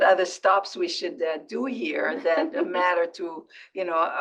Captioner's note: laugh